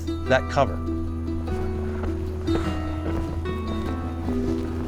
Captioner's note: foot steps